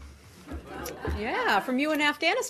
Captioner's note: laughter